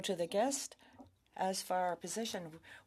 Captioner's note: speaking French